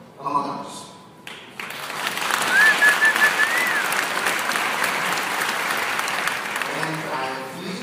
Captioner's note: applause